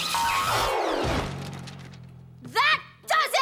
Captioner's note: zapping